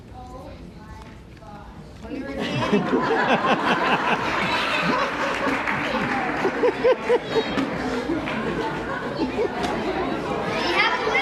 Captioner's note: audience laughter